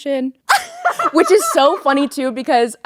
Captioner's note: Courtney laughing